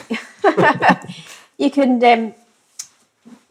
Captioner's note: laughs